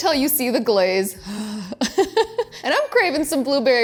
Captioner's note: sighs